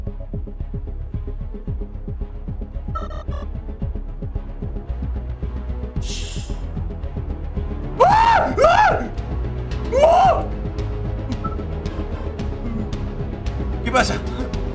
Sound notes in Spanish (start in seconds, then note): 9.9 Sorprendido